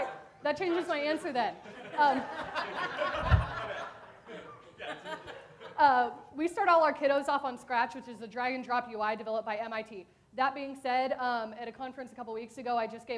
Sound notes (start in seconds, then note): 1.6 audience laughs